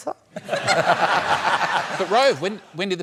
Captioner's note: laughter